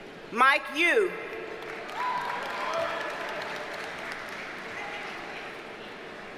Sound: audience cheers and applauds

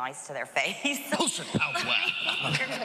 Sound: laughs

